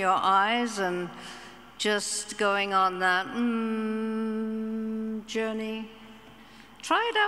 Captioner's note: hums